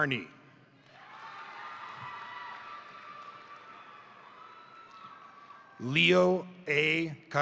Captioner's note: crowd cheering; crowd applauding